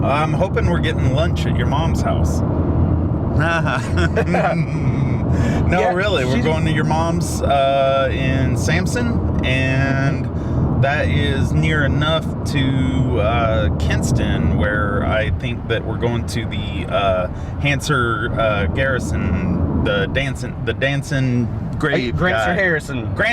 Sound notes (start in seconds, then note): 3.3 laughing